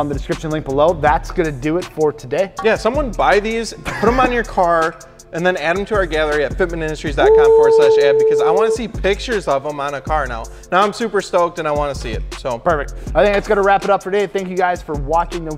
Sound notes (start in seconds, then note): 3.8 laughs; 7.2 whoo'ing